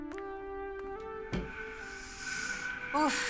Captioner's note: Door opens